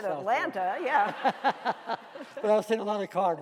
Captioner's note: laughing